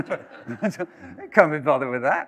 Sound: laughter

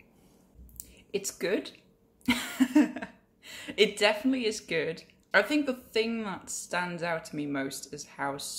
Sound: laugh

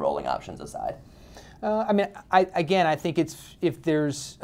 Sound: voiceover

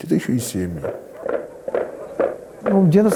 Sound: knock of helmets

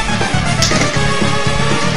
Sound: smack

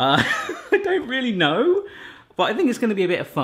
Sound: laughs

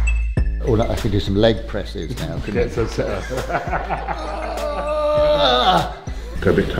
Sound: laughter

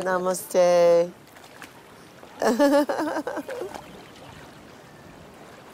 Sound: manic laughter

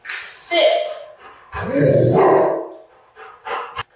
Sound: dog Barks!

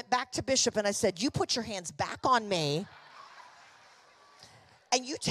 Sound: congregation laughing

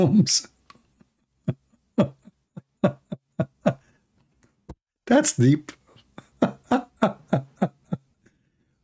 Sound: Ketawa

